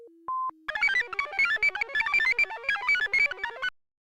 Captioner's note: computer chirps